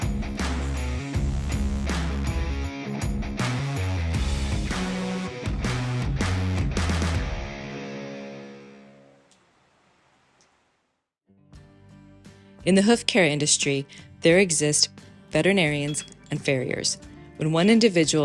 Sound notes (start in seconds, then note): 11.3 guitar Music Intro; 12.5 voiceover